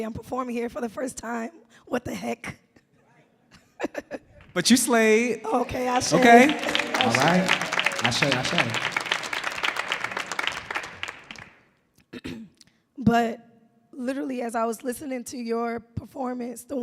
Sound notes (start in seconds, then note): 3.3 laughs; 10.4 audience clapping